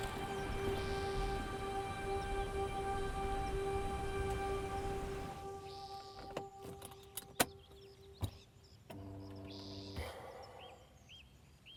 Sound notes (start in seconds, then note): 5.6 birds chirping continues; 5.6 bright music continues